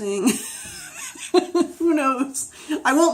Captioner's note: laughs